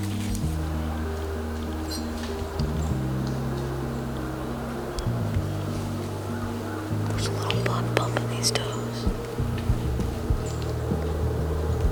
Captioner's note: whispering